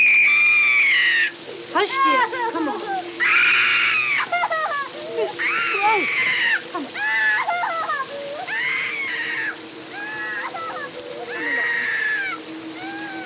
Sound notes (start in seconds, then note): 0.0 screams; 2.9 screaming, sobbing; 7.3 screaming, sobbing continues